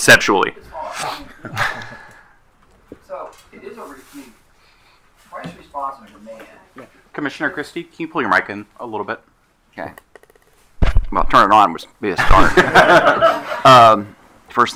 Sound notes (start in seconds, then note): 4.0 speaking faintly; 12.1 all laughing